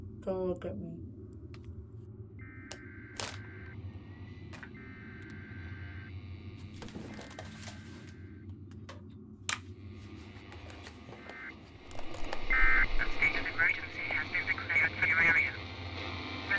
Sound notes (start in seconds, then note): 2.3 emergency broadcast signal; 2.3 radio static